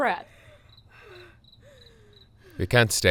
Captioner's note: Emily cries